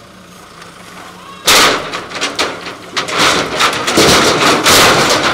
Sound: wood planks loud crashing

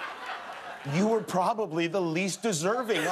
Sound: laughter

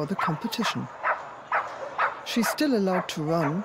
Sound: Posh continues barking

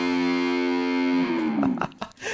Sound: laughing

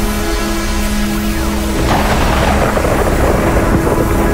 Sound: thunder crashes

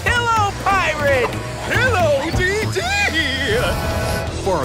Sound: giggles

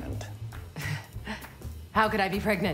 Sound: nervous laughter

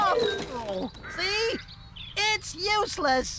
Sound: clunk!

